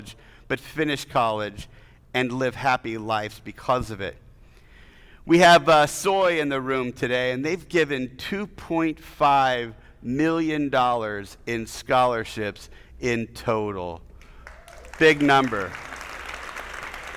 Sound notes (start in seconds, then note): 14.2 attendees applauding; 14.4 audience cheering